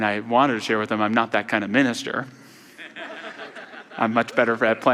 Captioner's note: audience laughter